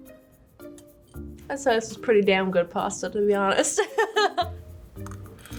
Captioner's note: laughs